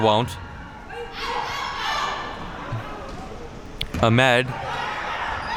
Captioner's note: spectators shouting